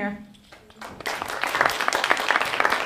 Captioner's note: applause